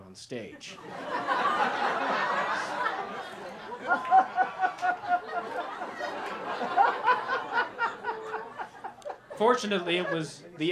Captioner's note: laughter